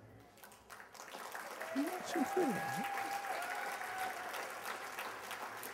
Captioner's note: applause